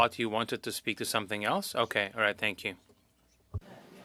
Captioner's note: speaking French